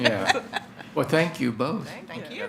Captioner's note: attendees chuckling